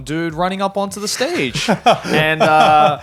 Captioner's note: laughing